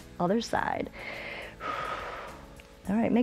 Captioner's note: inhales and exhales